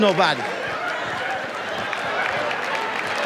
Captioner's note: audience laughs; audience applauds